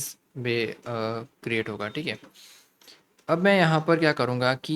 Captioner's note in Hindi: नाक से की जाने वाली आवाज़